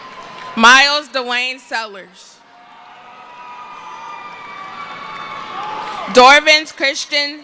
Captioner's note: cheering